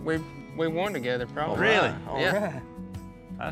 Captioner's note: all chattering